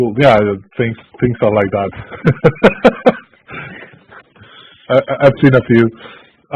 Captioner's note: laugh